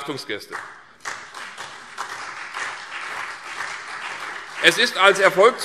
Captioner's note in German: Beifall CDU und BÜNDNIS 90/DIE GRÜNEN